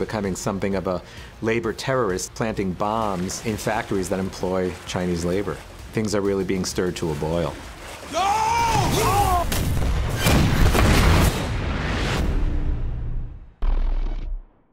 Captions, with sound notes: something of a labor terrorist, planting bombs in factories that employ Chinese labor. Things are really being stirred to a boil. (YELLING) Go! (EXPLOSIONS)